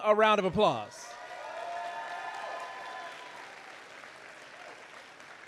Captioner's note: audience applauding